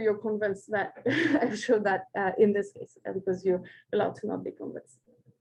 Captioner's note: chuckles